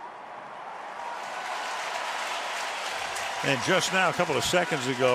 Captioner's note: cheering